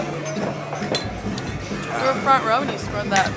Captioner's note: glasses clanking over rhythmic hard rock music